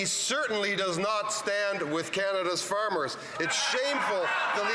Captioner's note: some Applause